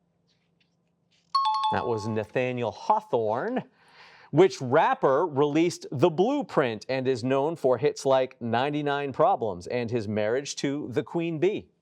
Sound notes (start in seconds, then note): 1.3 buzzer chimes